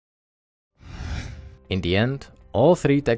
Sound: air whooshing

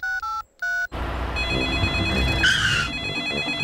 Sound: dialing; phone rings

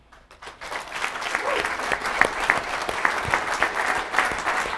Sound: audience applauding

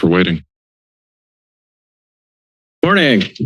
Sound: silence

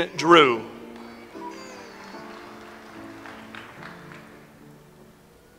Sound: audience applauds

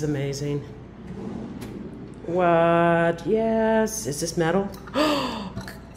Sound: gasp

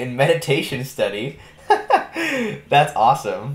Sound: laughing

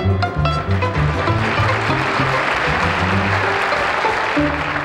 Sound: audience applauds

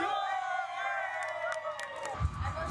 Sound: cheering

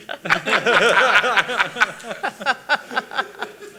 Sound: laughing

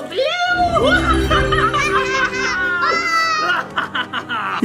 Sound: all cackling

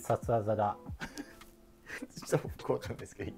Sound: laughing

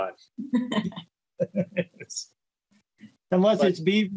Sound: laughing

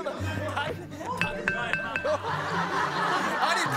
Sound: clanging

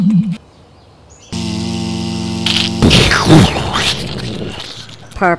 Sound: buzz; crunch; explosion

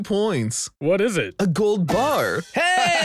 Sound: laughs

